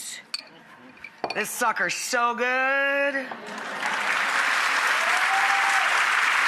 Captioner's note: audience applauds